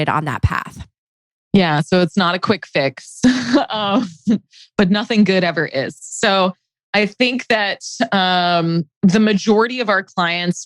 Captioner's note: laughs